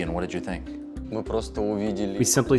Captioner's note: speaking in foreign language